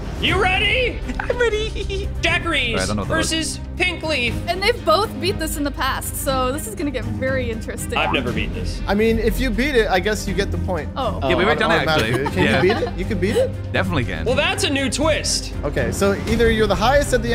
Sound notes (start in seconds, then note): 1.1 giggles